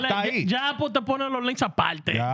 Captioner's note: speaking In Foreign Language